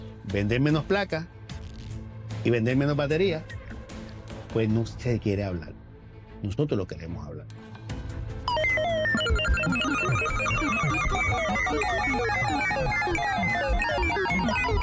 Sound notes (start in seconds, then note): 8.4 beeping